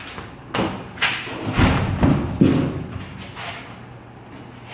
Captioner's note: metal clanking